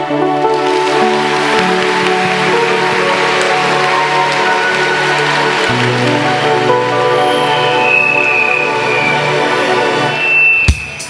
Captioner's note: audience applause